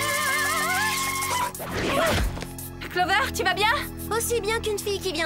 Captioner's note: screaming